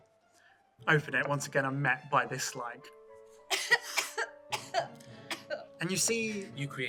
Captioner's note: coughing